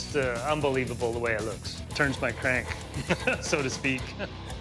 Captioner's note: laughs